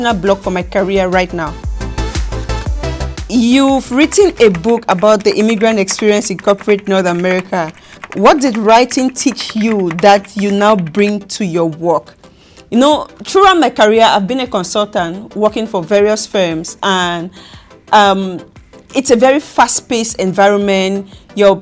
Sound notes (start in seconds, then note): 1.9 upbeat music; 4.3 keys typing